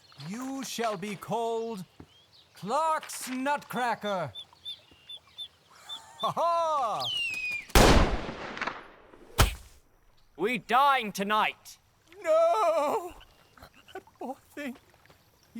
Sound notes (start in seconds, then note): 7.7 loud gunshot